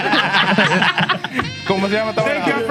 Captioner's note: laughing; speaking Foreign Language